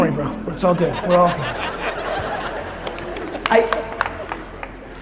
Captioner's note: crowd laughs